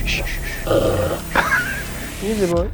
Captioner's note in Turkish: hırlama sesi